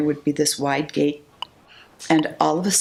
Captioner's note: metronome beeping